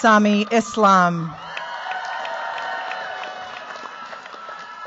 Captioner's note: cheers, applause